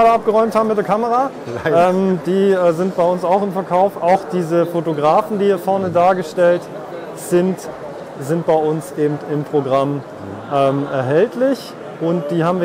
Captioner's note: laugh